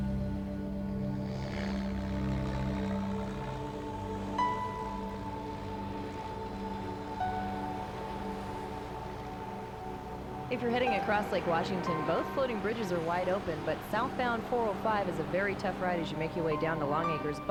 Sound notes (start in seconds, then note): 1.4 airplane whirring